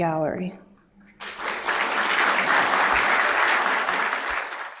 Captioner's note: applause